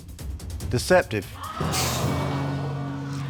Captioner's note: audience gasps